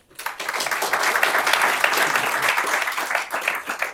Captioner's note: applause